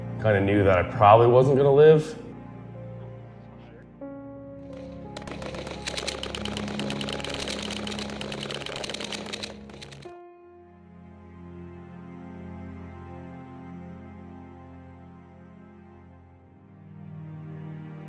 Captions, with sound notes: Kinda knew that I probably wasn't gonna live. (melancholy music) (gunfire)